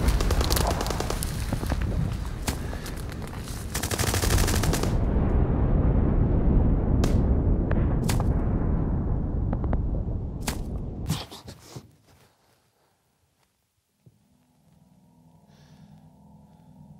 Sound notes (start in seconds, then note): 0.1 gunfire in the background; 6.9 explosion; 11.9 grunts, Background sounds stop